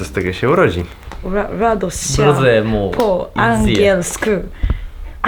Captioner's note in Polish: próbuje czytać po polsku